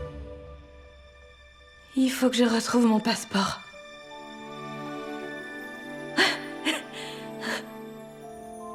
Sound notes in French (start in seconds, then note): 6.2 Becca rit doucement